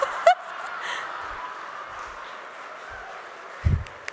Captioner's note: laughter